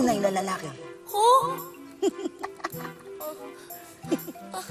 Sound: laughs

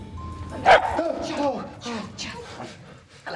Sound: barks

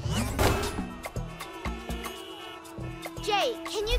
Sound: honking

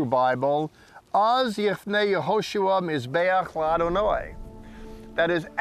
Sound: speaking in Hebrew

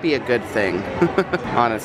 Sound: laughs

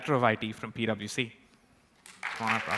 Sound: applause

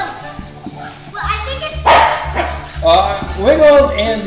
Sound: dog barking

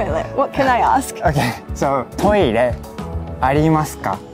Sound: speaking in Japanese

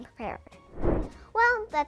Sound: air swish

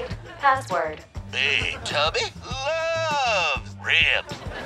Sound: computer voice; recorded voice

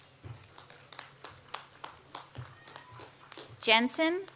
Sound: audience applauds

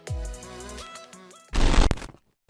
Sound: glitch transition

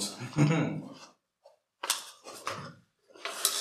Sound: chuckles

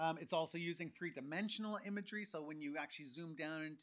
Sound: none

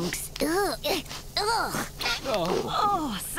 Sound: sniffing

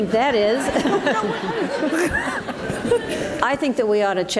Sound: audience laughs

